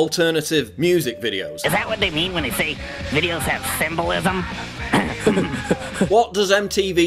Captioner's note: laugh